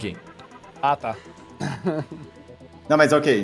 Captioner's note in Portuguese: Risada